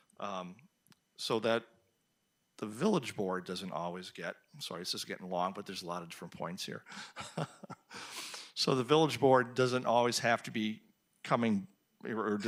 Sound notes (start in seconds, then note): 6.9 chuckles